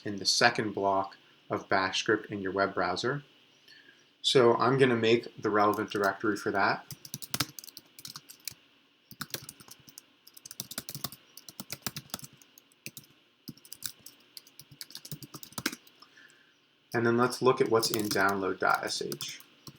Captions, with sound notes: in the second block of Bash script in your web browser. So I'm going to make the relevant directory for that. (keyboard clicks) And then let's look at what's in download.sh.